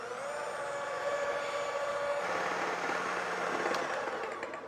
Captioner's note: mixer whirring fast